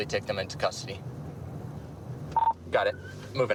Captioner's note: radio beeps